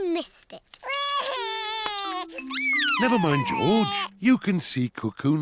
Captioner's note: sobs